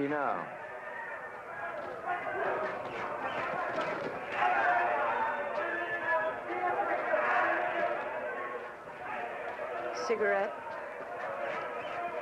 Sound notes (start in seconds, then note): 1.3 muffled crowd yelling